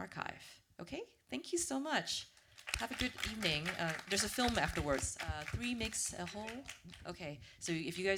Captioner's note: applause